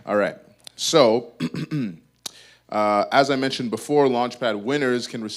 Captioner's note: clears throat